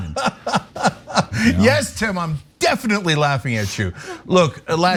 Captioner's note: laugh